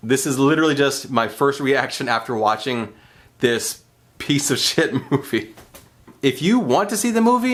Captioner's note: laughs